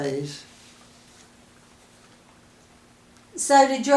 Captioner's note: silence